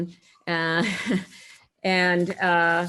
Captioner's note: chuckles